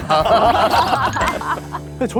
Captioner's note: laughing